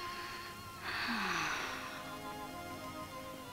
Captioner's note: Ellen sighs